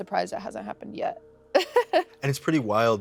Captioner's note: laughs